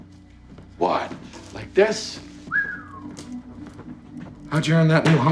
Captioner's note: whistles